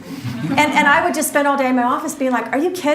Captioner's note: audience laughs